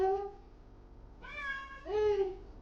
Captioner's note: meowing